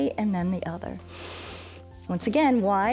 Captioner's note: inhales